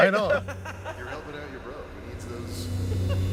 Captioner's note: distorted distant voice